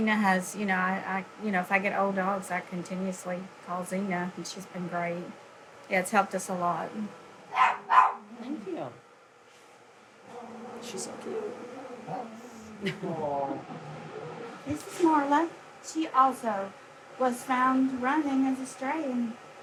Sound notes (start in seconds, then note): 7.5 dog barks